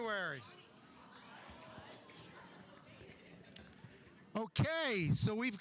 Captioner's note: audience chattering